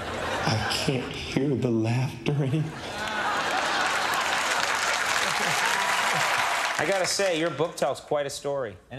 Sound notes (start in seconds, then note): 2.6 crowd laughing and clapping